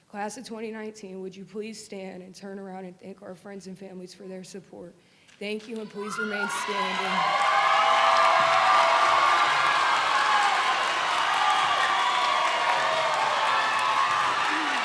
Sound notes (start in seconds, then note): 7.5 audience applauds; 7.5 audience cheers